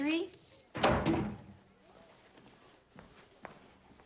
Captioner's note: book thuds